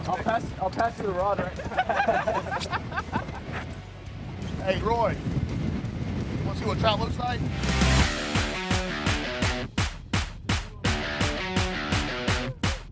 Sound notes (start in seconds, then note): 1.4 laughter; 7.4 rock music